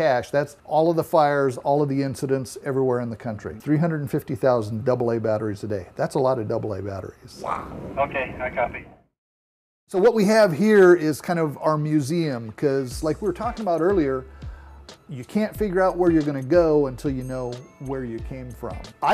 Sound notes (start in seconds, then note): 8.0 man On Radio